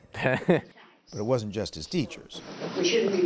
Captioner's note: laughter